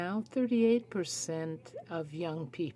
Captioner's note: speaking French